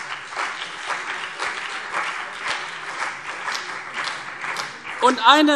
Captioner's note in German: Beifall CDU und BÜNDNIS 90/DIE GRÜNEN